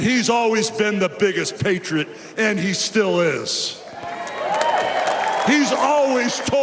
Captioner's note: cheers and applause